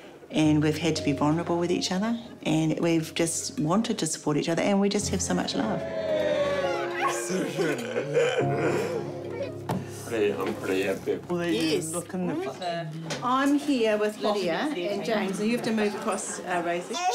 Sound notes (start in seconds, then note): 5.9 cheering; 6.4 all laugh